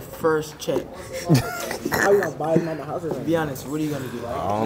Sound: laughs

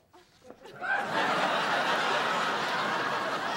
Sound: laughter

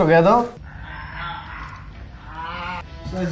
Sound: audible groaning

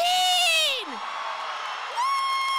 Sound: audience cheering and applauding

